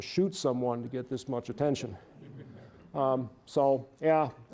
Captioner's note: audience chuckling